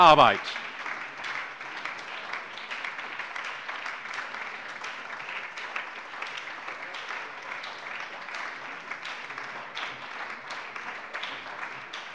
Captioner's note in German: Beifall bei der LINKEN, der SPD und dem BÜNDNIS 90/DIE GRÜNEN